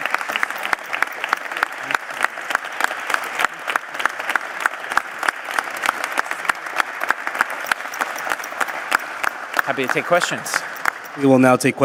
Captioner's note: applause